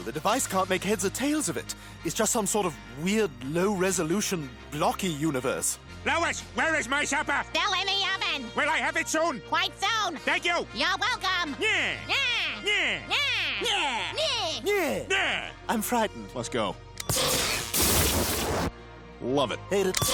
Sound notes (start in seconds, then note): 17.1 beep, sizzling